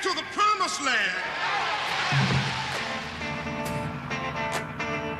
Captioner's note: crowd cheers